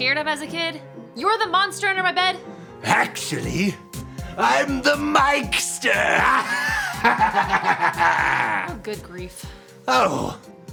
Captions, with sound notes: You're what I was scared of as a kid? You're the monster under my bed? - Actually, I'm the Mike-ster. (laughs) - Oh, good grief.